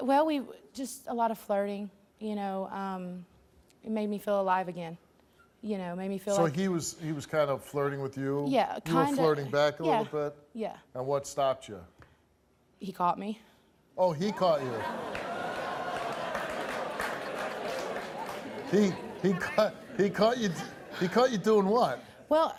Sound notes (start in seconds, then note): 14.2 audience laughs and claps